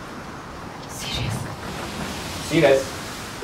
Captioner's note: whispers